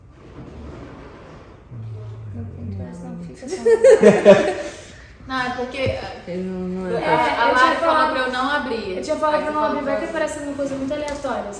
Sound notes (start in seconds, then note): 1.5 indistinct chatter in the background; 3.4 laughs